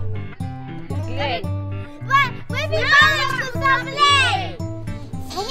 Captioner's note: talking and rejoicing in Ukrainian